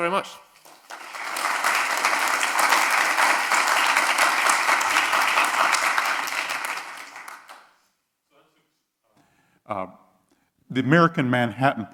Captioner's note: applause